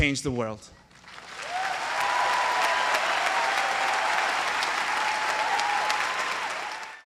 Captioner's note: applause